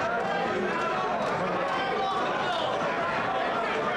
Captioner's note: ambient chatter